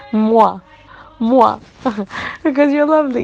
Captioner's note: giggles